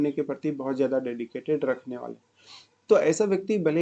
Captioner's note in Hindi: नाक से की जाने वाली आवाज़